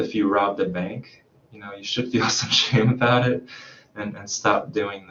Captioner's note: chuckles